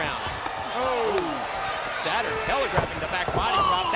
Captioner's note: Heenan groaning